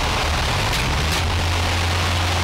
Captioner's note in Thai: เสียงทุบ; เสียงรถยนต์